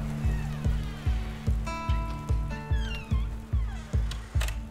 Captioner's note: door creaking open